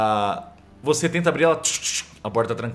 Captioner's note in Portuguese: tchu tchu